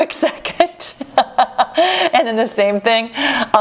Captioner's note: laughs